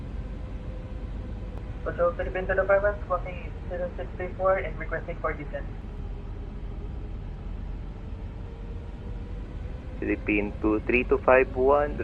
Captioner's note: atc chatter